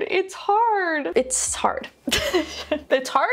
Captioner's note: laughs